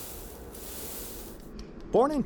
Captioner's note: wire fizzling